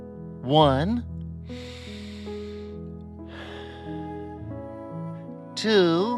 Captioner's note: breathes deeply